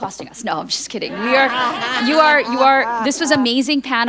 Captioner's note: group laughing